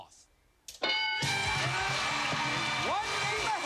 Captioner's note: cheers and applause